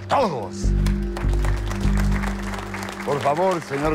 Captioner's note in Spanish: Aplausos